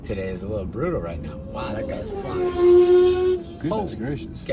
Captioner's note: loud engine screaming